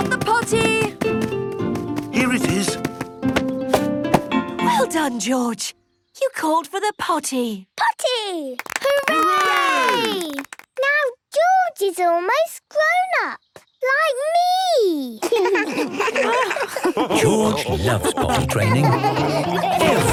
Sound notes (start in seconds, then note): 8.5 cheering, clapping; 15.2 laughs